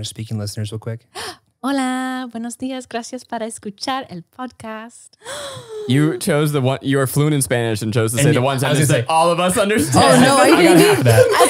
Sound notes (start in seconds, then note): 1.7 speaking in foreign language